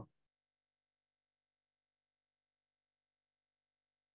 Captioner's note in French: silence